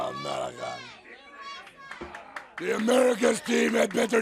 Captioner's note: crowd chatter